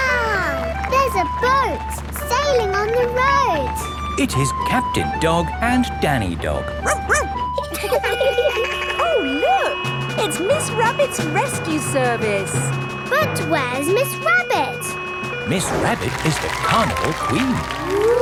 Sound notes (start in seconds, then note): 6.8 laughing; 6.8 barks; 7.9 sirens sounding